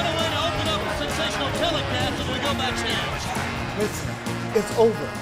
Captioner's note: crowd chatter